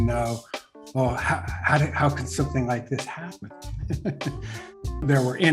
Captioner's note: laughs